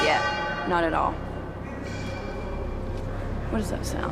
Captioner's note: metal clanking